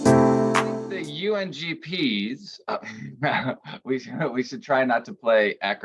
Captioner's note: upbeat bright music; chuckles